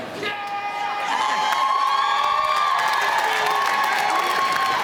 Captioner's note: audience cheering